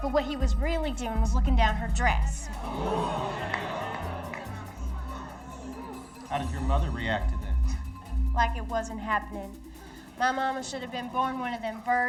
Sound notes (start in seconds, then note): 2.5 audience gasps